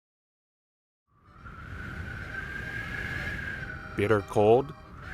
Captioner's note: sound of BLOWING WIND